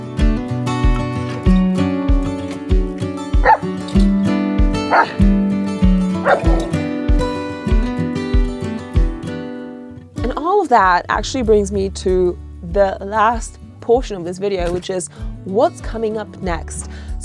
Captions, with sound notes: (lively guitar music continues) (Vilk barking) And all of that actually brings me to the last portion of this video, which is, what's coming up next?